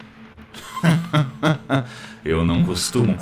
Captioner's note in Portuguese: risada